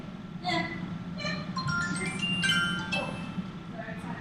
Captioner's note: phone rings